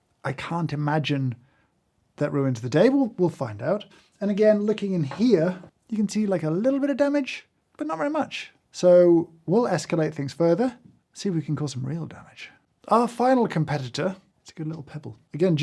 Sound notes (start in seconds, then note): none